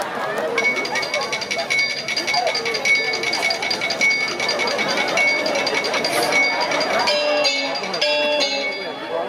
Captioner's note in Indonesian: Nada Dering HP